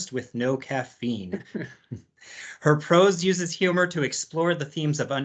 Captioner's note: laughs